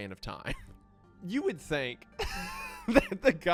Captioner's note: laughing